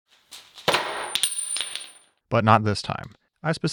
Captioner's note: metal clinking